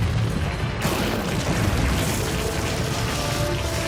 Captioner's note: rumbling